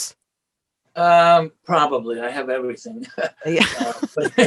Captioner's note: laughs